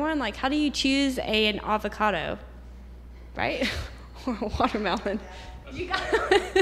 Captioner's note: laughter